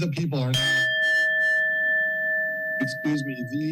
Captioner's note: bell rings